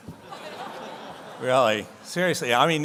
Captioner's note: audience laughs